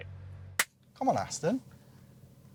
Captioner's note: clap!